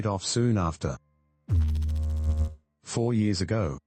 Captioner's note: electrical noise